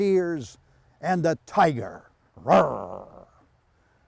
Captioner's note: imitates tiger roar